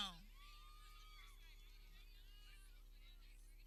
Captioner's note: people cheering